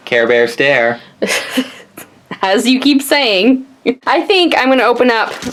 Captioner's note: laughs